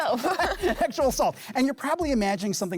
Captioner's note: group laughing